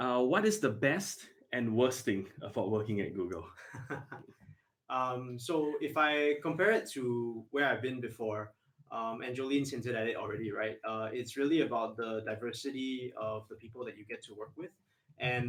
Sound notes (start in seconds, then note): 3.6 laughs